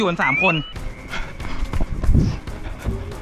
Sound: pat; rapid footsteps

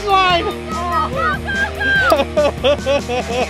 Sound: family cheering; chuckling

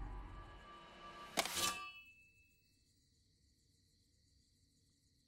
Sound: knife clattering

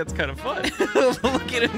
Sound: laughs

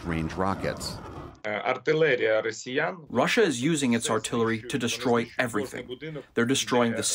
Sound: through translator

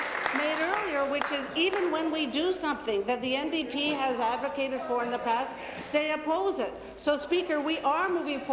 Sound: applause

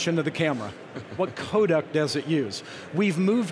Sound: chuckling

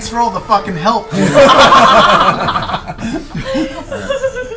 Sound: all laugh

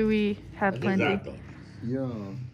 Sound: Arabic

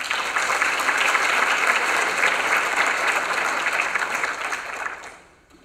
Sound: applause

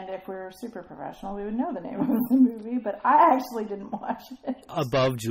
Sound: laughs

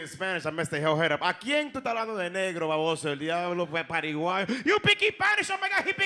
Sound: speaking Spanish

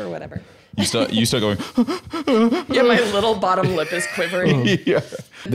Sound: ramping-up sobs

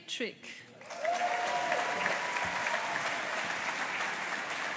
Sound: audience applauding

